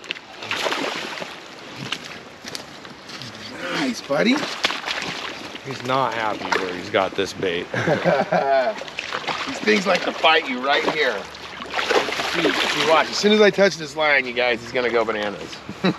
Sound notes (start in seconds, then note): 1.8 fish splashing; 2.6 reel cranking; 3.8 fish splashing; 7.6 chuckling; 11.4 fish splashing